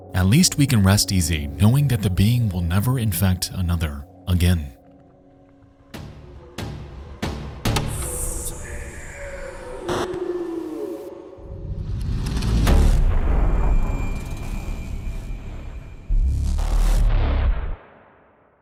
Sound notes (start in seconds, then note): 5.8 ambient music; 5.8 character groaning